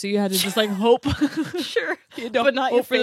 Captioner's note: laughs